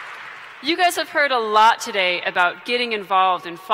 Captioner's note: cheering